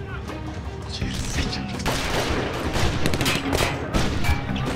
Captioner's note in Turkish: Silah sesleri